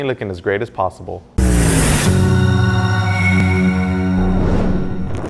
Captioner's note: air whooshing